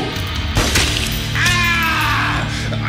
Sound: bang

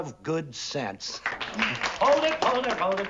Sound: applause

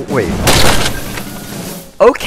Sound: crash

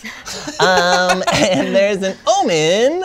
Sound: laughter

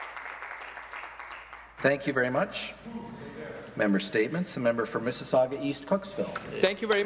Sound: some Applause

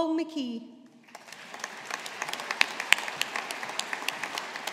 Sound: audience applauding

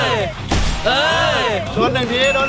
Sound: cheering

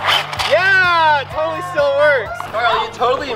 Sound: engine revving; group cheering

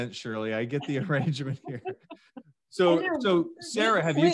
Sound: laughs

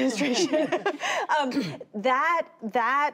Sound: laughter

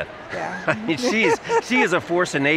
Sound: laughs

